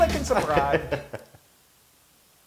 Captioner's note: laugh